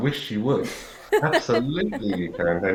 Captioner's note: laughs